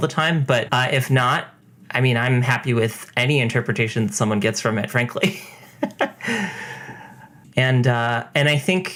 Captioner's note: laughs